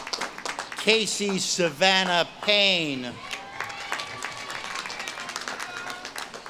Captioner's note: audience claps and cheers